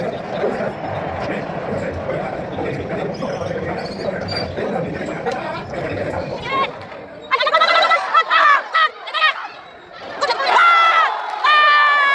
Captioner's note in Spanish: risas